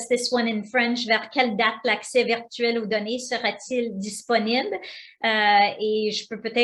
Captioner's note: speaking foreign language